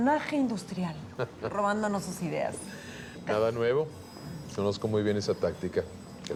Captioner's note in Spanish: Risas